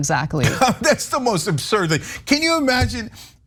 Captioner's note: laugh